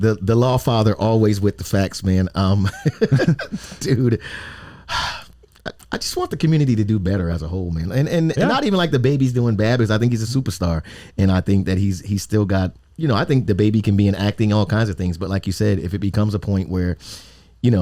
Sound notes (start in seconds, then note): 2.8 laughs; 4.1 sighs